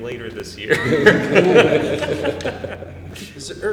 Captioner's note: laughter